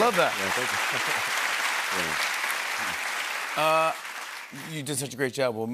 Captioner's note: applause